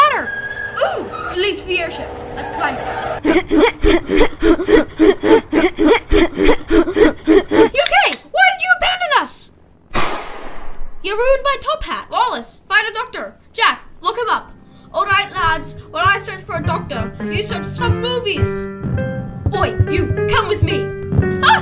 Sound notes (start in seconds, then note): 9.9 US shoots gun